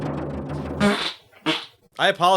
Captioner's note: an indecent sound